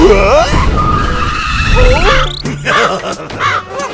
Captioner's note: kaw - kaw